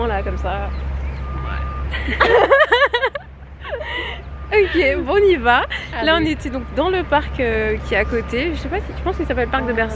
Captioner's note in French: rires